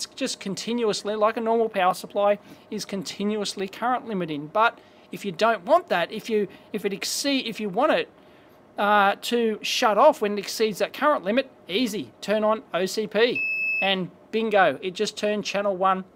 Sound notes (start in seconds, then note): 10.0 beep